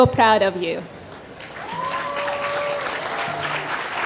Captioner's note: applause